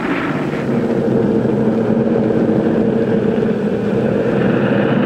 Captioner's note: airplane engine whirring